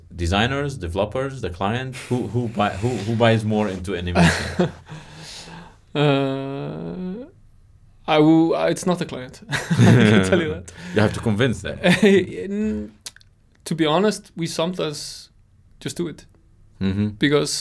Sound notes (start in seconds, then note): 5.9 chuckles